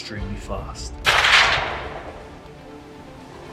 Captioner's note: shot fired